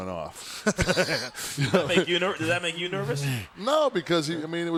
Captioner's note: laugh